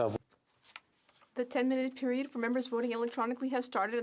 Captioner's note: speaking French